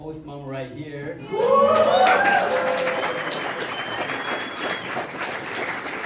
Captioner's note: crowd cheers and applauds